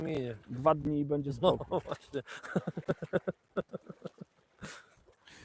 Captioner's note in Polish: śmiech